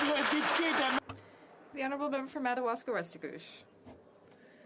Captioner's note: some Applause